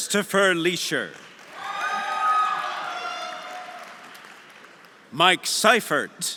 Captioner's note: audience applauding; audience cheering